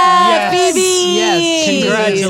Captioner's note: all cheering